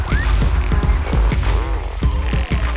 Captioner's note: BB-9E sounds